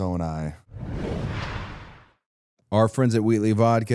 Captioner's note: rushing sound plays